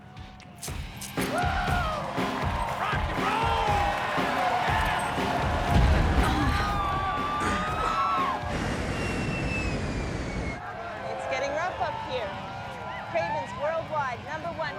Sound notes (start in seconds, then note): 5.6 turbulence; 7.6 fans scream